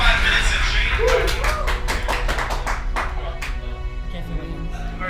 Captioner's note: clapping